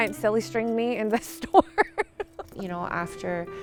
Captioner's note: laughs